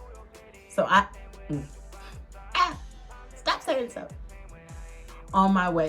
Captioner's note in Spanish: Suena como un cuervo